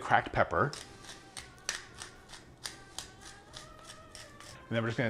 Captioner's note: pepper cracking